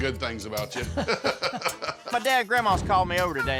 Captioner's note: laughs